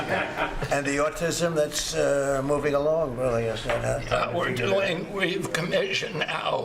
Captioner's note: laughter